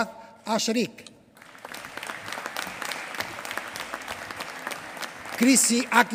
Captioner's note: applause